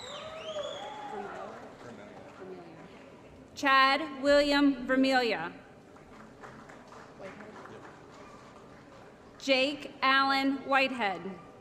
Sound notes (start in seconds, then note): 0.0 applause & Cheering; 5.9 applause